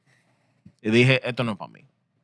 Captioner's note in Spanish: Hablando en idioma extranjero